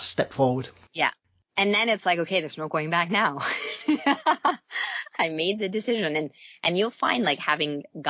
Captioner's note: laughs